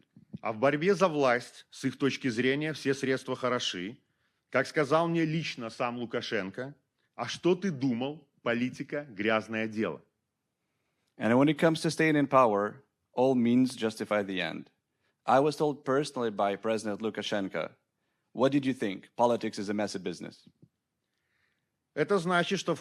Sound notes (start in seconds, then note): 5.4 speaking Belarusian